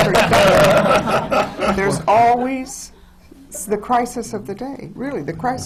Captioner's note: laughter